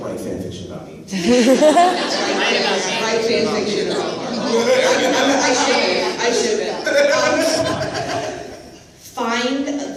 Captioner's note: laughter, commotion